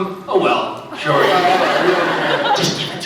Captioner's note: laughs